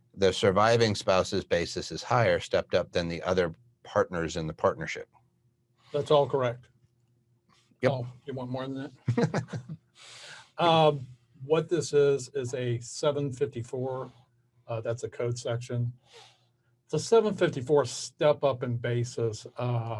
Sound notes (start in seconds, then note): 9.0 chuckling